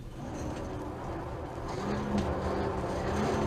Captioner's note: fire roars